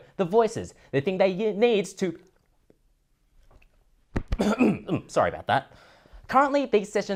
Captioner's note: cough